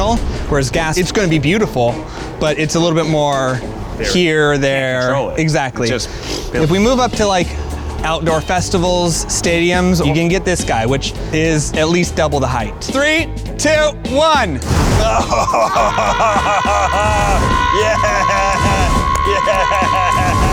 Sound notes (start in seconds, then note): 6.9 poofing; 14.6 flames bursting; 15.0 laughing; 17.0 screaming; 17.8 flames bursting; 20.3 screaming